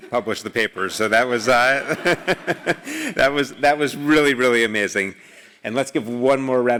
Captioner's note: laugh